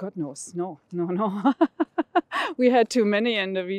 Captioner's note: laughs